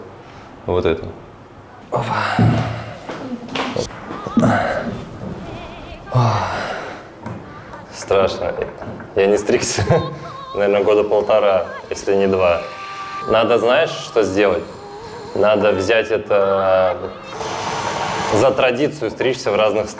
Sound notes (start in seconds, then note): 2.2 talking and laughing